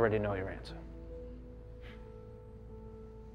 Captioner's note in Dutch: scoffs